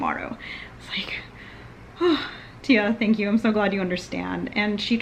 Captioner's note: sigh